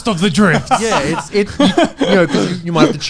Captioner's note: laughing